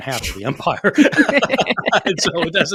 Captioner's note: laughing